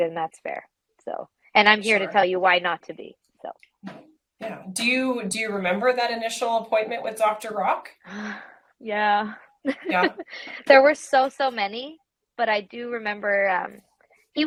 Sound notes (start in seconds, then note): 8.0 sighs; 9.6 laughs